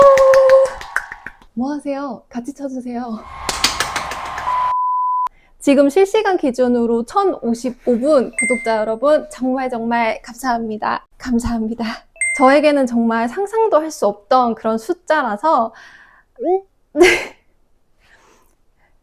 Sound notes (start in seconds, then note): 3.2 applause